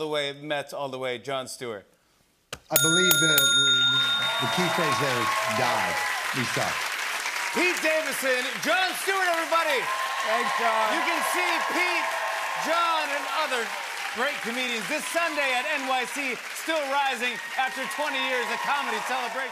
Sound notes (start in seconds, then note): 2.7 bell dings